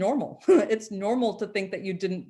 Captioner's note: chuckles